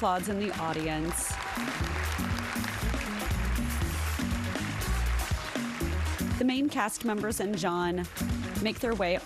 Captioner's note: applause